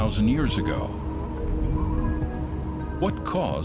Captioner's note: wind whistles